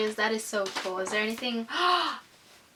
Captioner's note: gasp